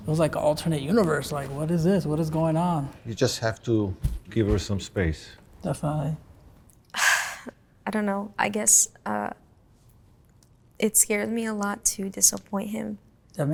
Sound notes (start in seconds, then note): 7.0 sighs